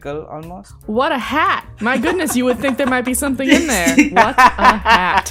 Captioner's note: laughter